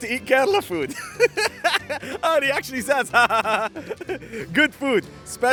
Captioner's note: laughs